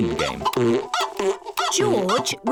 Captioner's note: chicken clucking